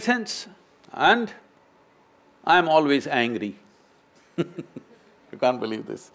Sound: laughs

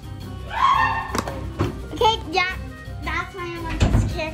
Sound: screaming

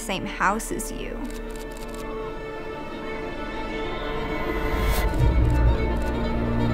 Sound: picture clicking; picture clicking

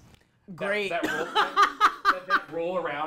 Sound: laughs

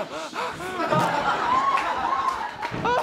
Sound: audience laughter

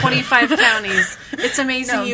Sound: laughs

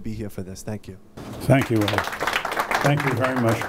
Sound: applause

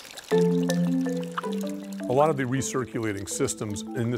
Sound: trickling water

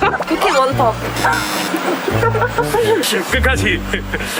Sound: couldn't resist laughter

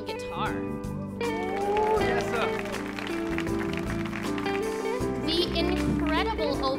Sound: audience applauds

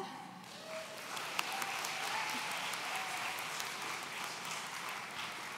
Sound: audience cheering

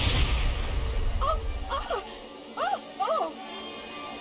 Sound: makes panicky sounds

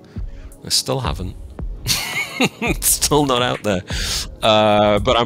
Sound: chuckles

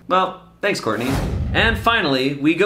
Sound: air whooshing

